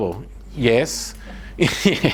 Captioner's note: laughs